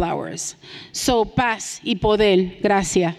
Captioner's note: speaking in Spanish